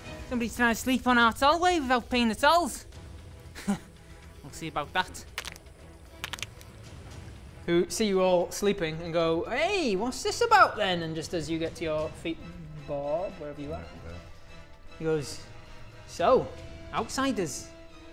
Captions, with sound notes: Somebody's trying to sleep on our tollway without paying the tolls ha we'll see about that *crack* *crack* who see you all sleeping and go Hey what's this about then? and just as you get to your feet Bob wherever you are he goes So, outsiders